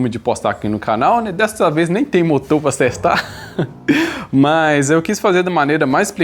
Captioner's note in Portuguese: risadas